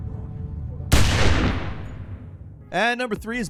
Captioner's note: gun fires